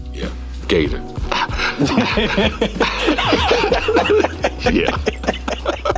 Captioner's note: laughing